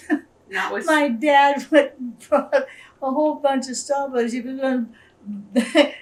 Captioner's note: laughs